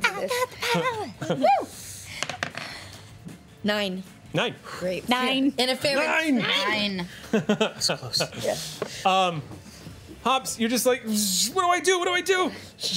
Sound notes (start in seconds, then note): 2.7 clatter; 6.9 laughs